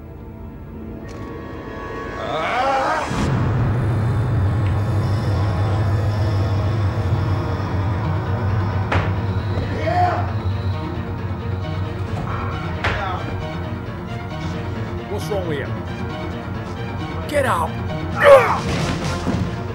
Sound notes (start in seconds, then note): 0.8 soft intense music; 2.2 Martin roaring; 3.2 Martin thudding; 5.3 kick thudding; 5.3 soft eerie music; 10.8 rapid tense orchestral music; 12.8 door clicking; 18.5 prison guard thudding; 19.5 rapid tense orchestral music